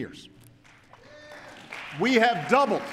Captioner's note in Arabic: تصفيق